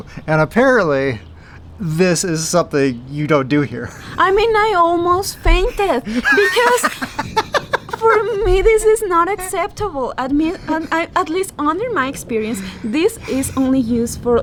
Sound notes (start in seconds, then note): 7.4 laughing